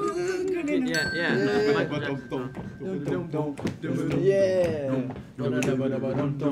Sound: humming

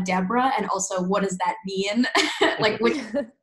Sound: giggles

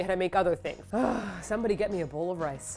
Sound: sigh

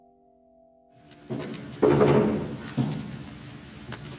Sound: knocking

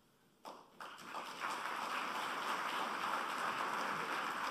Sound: applause

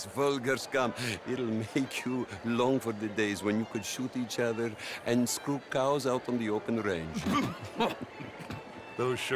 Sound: the other men almost choke laughing

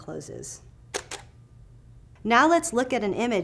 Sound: camera shutter clicks

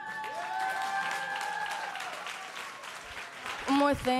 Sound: audience cheers

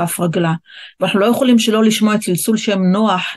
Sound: in Hebrew

